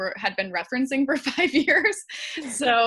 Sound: giggles; laughs

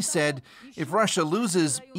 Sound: speaking alternate language

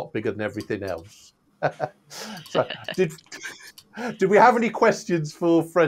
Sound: laughs

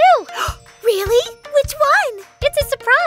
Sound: gasps

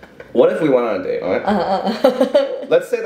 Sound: chuckles

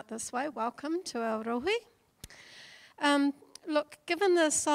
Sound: speaking in foreign language

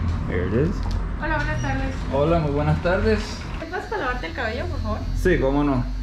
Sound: speaking in Spanish

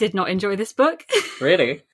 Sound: laughs

